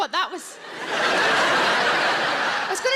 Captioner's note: audience laughs